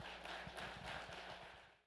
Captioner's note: applause